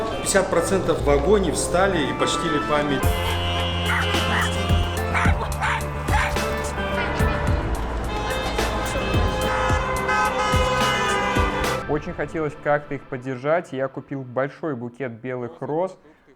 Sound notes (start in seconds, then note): 5.1 barking; 9.8 car honks